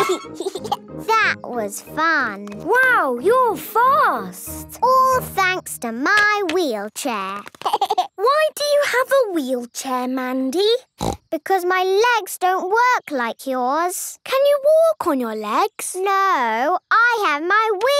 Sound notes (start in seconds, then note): 7.6 laughing